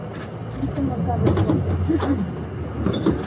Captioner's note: speaking in foreign language